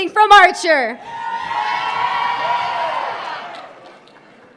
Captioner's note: crowd cheering